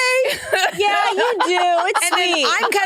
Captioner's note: participants laughing